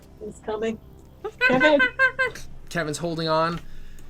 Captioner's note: monkey sounds